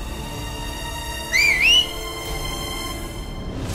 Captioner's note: whistles